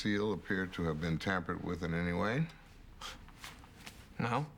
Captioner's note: scoffs